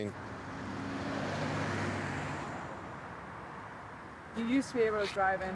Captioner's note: traffic whooshing